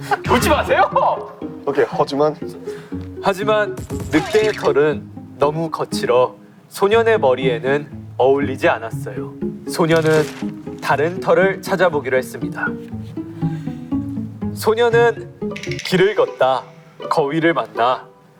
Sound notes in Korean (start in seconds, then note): 13.2 흐흐흫